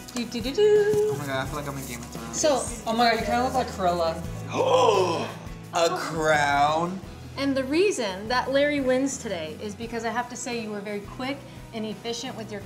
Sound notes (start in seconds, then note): 0.2 hums; 4.5 gasps